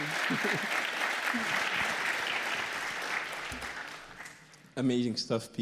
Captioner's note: applause